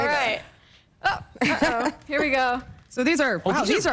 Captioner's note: laughter